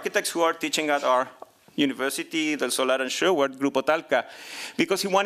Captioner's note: non-english speech